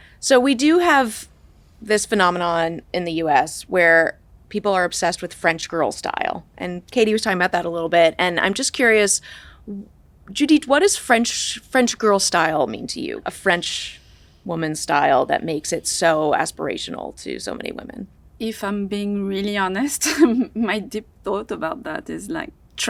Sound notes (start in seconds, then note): 20.0 chuckles